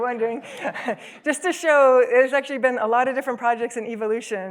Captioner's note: laughs